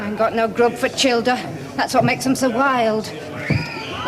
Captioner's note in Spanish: Gritos